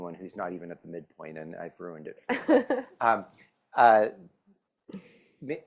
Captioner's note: laughs